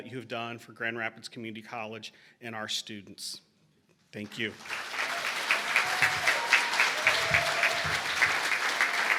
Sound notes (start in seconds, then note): 4.2 applause